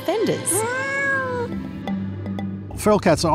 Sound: cat meows

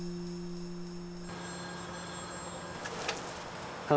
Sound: phone rings

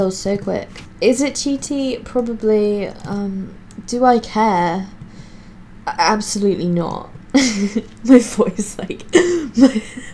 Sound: laughing

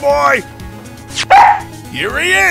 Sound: Missile barks!

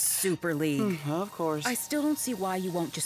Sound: sighing

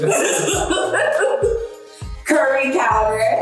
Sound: laughing

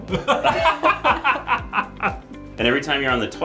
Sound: laughing

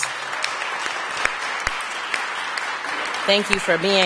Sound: applause

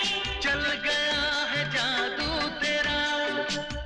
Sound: none

